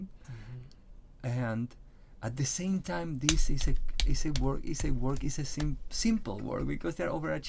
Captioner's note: claps hand